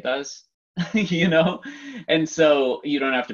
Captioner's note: laughs